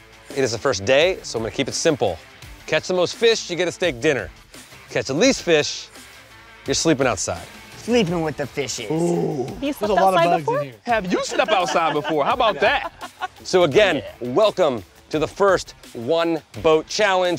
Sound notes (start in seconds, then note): 12.8 laughs